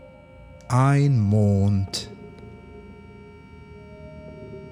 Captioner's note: german